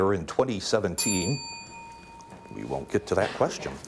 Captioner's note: ding